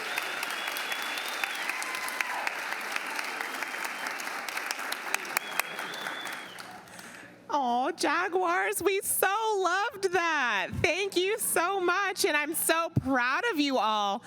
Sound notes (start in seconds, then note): 3.5 applause